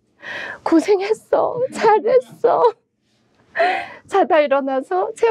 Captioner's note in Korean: 웃음